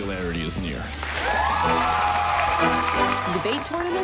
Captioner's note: applause; cheering